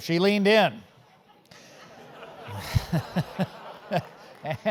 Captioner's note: laugh